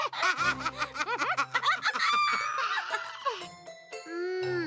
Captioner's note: both laughing